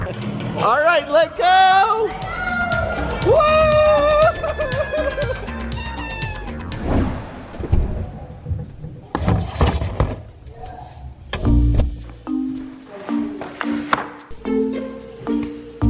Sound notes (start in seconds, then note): 3.7 cheering; 11.4 mellow music